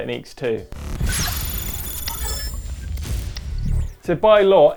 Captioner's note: electronic noises